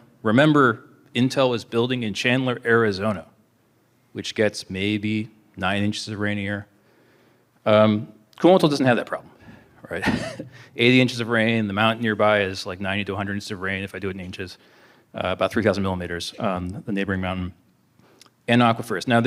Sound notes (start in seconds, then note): 9.9 laughter